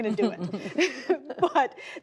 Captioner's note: laughter